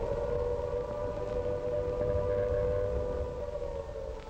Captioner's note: siren blaring